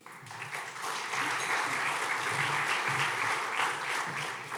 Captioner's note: audience clapping